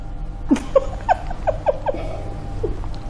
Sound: laughs

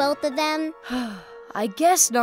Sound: sighs

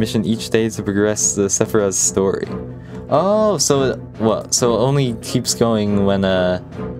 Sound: none

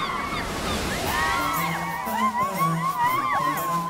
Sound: girls cheering; bright music

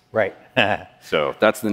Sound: laughs

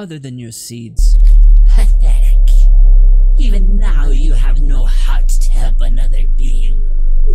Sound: distorted

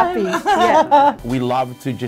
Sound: laughs

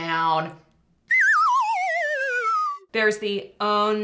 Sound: descending Whistle Sound Effect

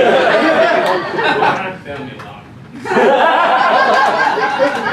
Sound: laughter

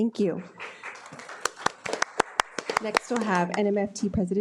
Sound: audience applauds

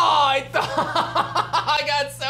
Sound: laughs

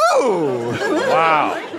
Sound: giggling

